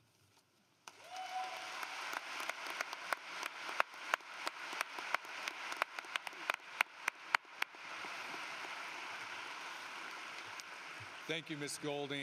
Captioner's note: cheering and Applause